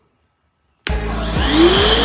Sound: motor starts

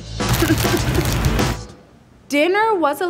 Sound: bag crinkling; whimpering

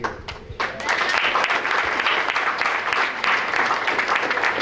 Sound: applause

